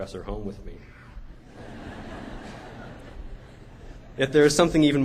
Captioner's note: laughter